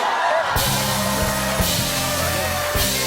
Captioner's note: audience "Oh"s